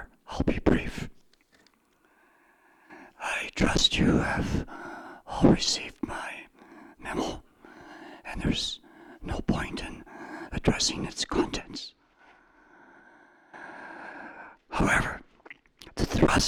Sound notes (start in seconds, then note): 7.7 whispering